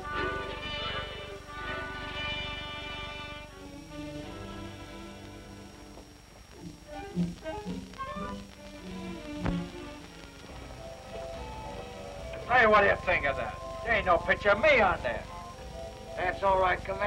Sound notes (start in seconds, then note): none